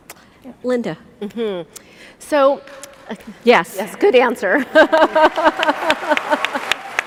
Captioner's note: applause